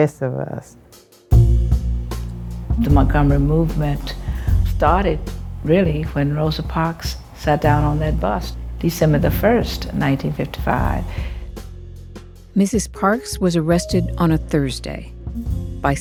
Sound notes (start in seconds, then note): 1.3 soundbite of archived recording